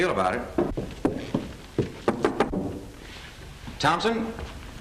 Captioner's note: knocking at door